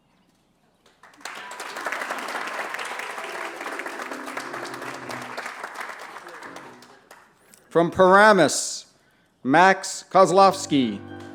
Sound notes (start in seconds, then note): 0.8 applause